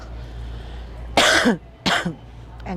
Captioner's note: coughing